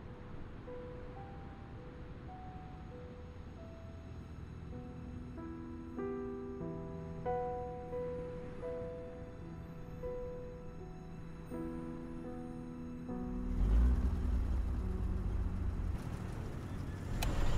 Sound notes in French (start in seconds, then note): 0.6 musique mélancolique; 13.1 vrombissement de moteur